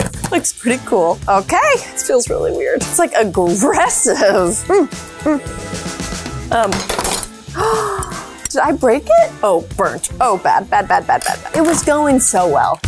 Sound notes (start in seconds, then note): 6.6 grater clattering; 7.5 gasps